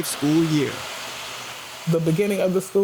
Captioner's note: engine whirring